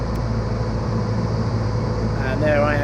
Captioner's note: plane humming